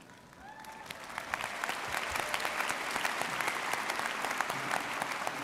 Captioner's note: audience cheering and applauding